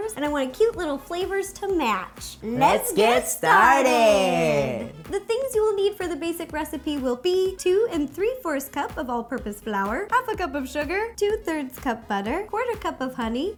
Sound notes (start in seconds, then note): 2.4 both in Unison